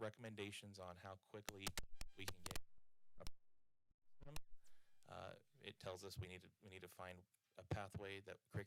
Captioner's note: audio cutting out